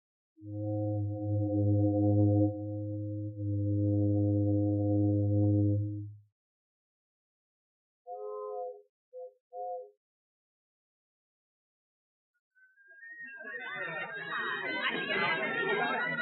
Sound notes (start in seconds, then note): 0.4 ship horn blows; 9.6 whistle toots; 13.1 chattering